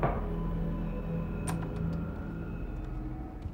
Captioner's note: knocking on door; door opens